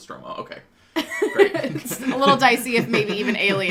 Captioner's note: laughter